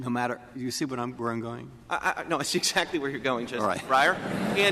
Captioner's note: laughter